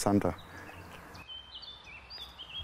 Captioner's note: birds chirping